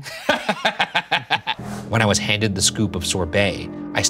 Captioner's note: laughing